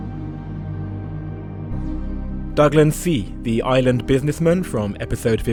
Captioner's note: voiceover